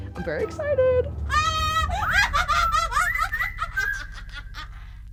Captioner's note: cackles